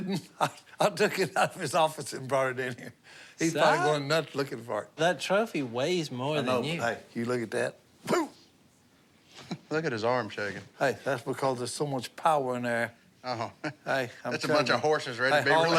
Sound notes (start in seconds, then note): 0.1 laughs; 7.9 grunt